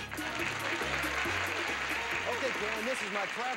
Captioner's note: audience applauding